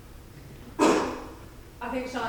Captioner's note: audience coughing